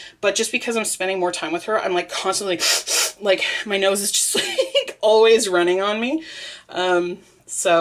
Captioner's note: makes sniffly noise